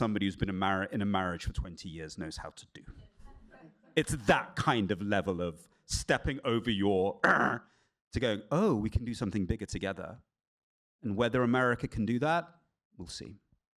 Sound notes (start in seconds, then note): 3.2 laughter; 7.2 growls